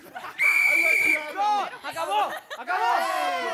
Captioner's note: whistle blowing